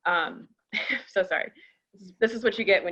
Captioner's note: chuckles